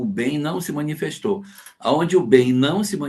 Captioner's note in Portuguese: none